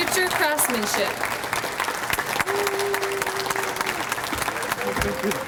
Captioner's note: audience applauds